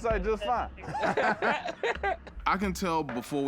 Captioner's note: laughter